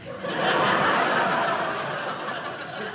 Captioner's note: audience laughing